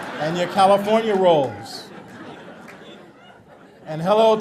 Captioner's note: audience laughter